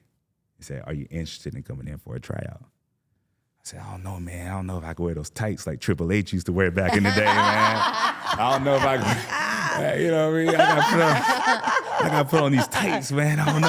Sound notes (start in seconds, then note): 10.8 laughing